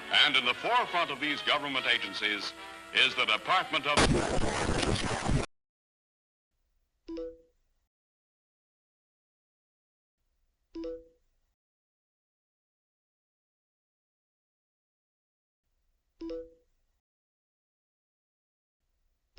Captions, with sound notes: And, at the forefront of these governmental agencies, is the Department of-- [radio static]